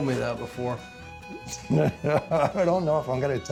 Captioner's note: laughter